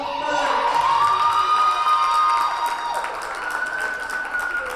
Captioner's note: cheering and applause